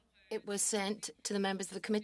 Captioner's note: speaking French